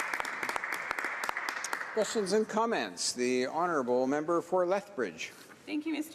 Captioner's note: applause